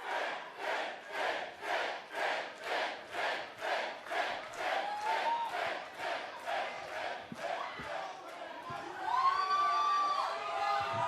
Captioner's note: fans chanting